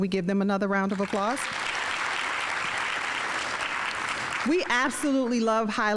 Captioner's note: audience applauding